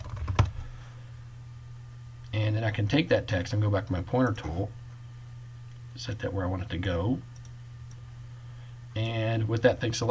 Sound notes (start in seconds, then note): 0.0 typing; 7.3 clicking